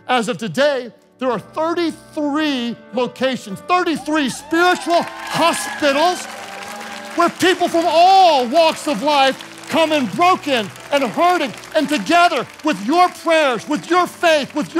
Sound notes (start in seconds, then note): 5.6 congregation cheering